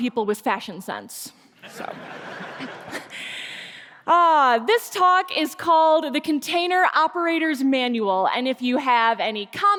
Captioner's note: laughter